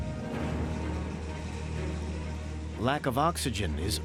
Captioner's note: shouting, equipment moving